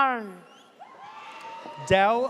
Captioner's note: audience cheers